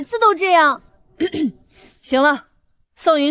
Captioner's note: cough